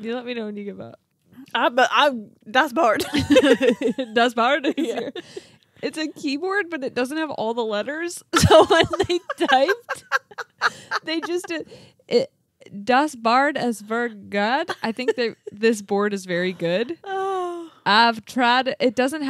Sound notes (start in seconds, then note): 3.0 laughing